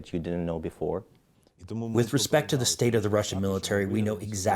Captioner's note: through translator